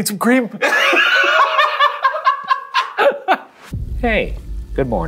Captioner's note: laughs